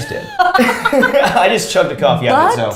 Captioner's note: both laughs